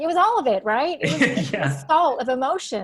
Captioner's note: laughing